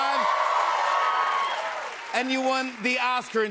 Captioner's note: cheers and applause